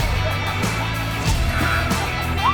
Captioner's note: clucking